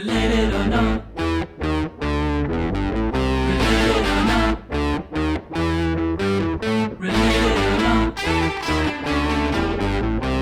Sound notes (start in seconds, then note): 4.2 in a singsong voice; 7.1 scats